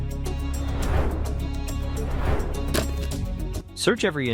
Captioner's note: tense music continues; air swooshing